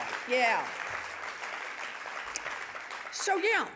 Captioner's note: audience applauding